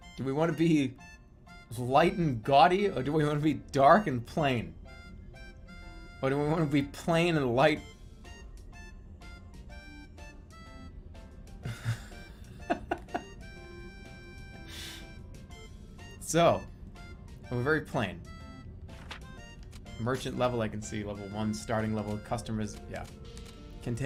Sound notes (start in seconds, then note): 11.6 giggling